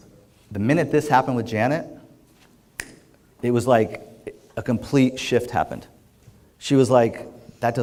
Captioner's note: snap